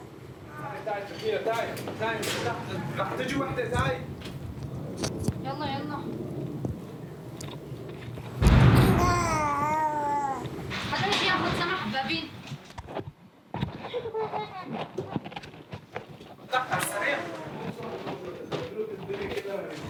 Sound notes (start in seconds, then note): 0.9 speaking foreign language; 8.3 loud bang